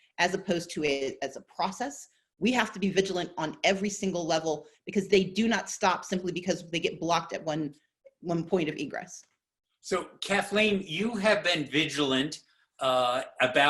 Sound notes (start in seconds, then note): none